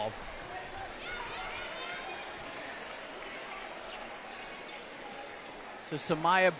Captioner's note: applause